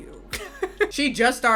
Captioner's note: laughs